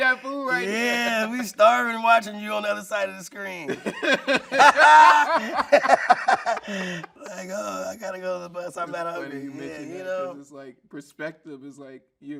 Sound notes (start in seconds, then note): 3.8 everyone laughing